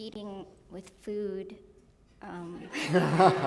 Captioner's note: laughter